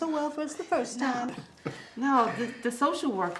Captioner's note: Eric chuckles